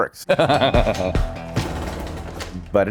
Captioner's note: laughter